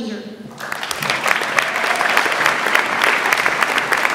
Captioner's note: audience applauds